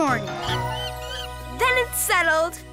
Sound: monkey screeching

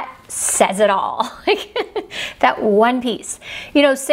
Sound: laughs

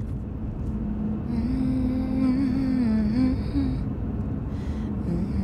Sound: driver humming

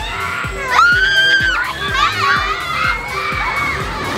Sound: screams

